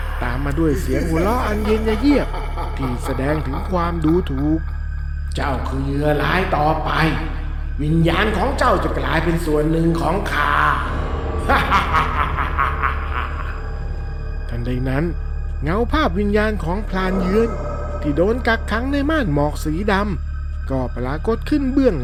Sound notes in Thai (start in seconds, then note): 11.4 เสียงหัวเราะ